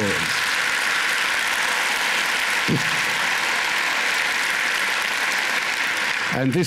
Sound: applause

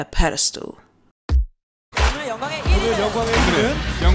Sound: tv sounds

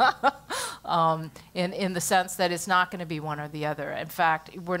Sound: laugh

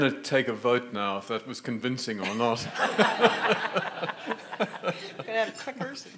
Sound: audience laughing

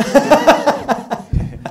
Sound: laughter

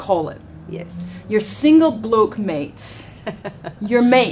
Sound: laughs

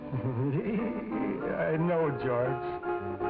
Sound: awkward chuckle

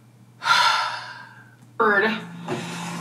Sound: sighs

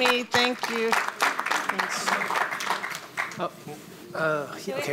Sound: audience applauds

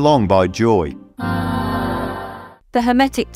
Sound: ahhh sound

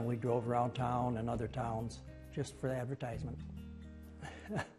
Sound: laughs

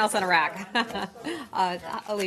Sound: off-mike

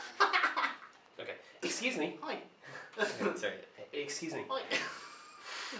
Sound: laughter

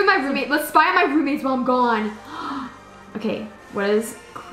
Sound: gasps

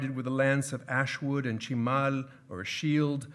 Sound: speaking in foreign language

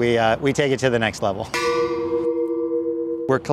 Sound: tanks clanging

